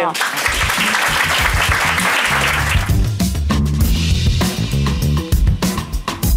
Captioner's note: audience applauding; upbeat music